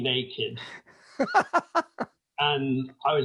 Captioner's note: laughing